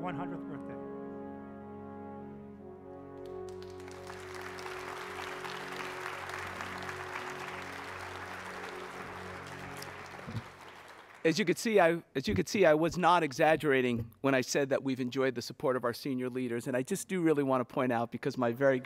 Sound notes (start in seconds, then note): 5.7 applause